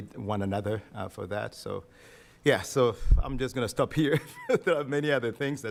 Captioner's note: chuckling